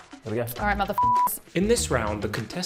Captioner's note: beeps